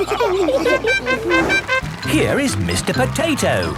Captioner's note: all laughing; horn tooting